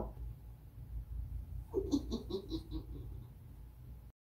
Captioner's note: Fox laughs